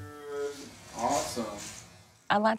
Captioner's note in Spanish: Voz de fondo